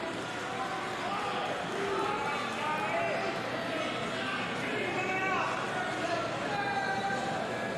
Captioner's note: cheers and boos